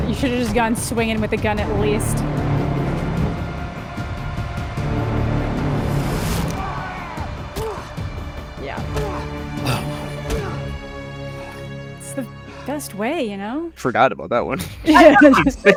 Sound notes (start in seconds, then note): 3.9 tense music; 9.6 Reacher grunts